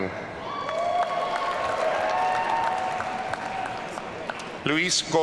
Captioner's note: audience cheering